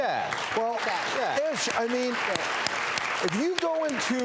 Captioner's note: crowd applause and affirmations